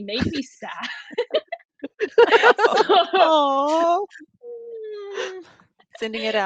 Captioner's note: all laughing